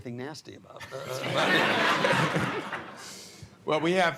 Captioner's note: laughter